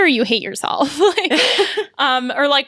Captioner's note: laughs